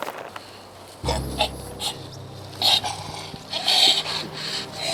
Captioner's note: orc gasps; somber music